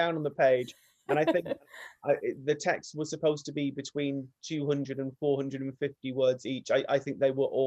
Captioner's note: laughs